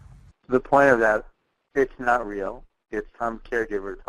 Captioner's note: voiceover